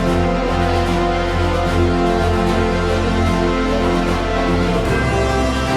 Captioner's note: clap